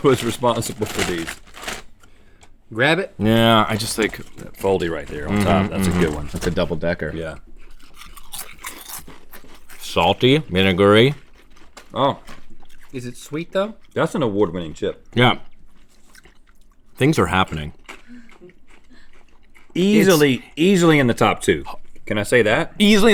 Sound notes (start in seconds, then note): 7.6 crunching; 19.9 laughing